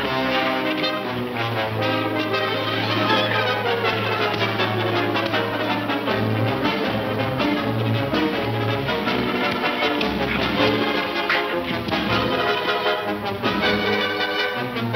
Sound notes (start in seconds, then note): 4.9 dull thudding